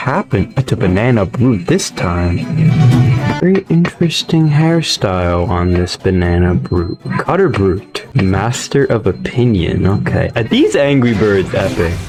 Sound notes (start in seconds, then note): 2.4 vacuum